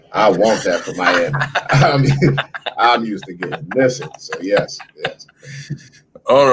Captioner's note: laughter